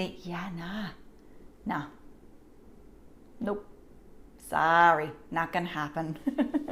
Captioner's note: laughs